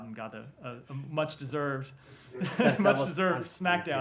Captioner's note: laughter